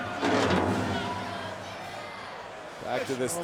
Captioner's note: stairs scraping